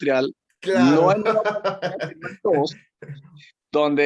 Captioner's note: laugh